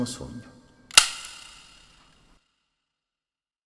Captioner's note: click